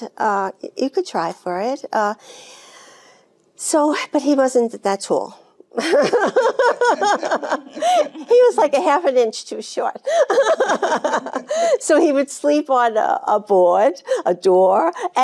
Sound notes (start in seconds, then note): 5.8 Jane laughing